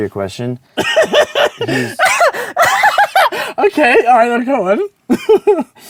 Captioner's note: laughs hard